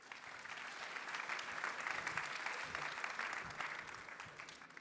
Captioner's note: applause